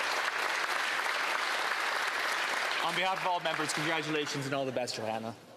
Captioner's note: applause